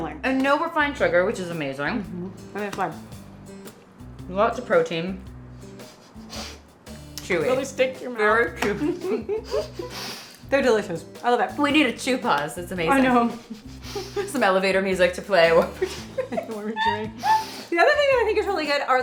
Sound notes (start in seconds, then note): 8.8 both giggling; 15.6 laughs